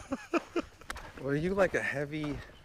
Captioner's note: laughing